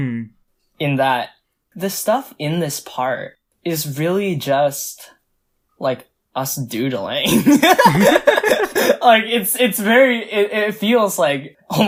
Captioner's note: both laugh